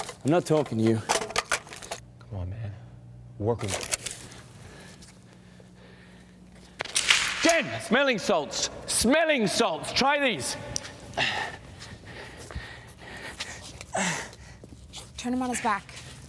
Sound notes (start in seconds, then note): 11.2 panting; 13.9 Robert moans